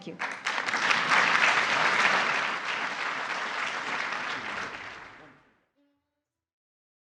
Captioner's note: applause